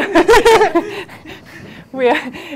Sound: laughs

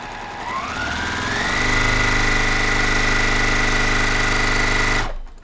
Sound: sewing machine whirring

